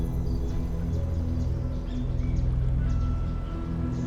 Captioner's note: birds chirp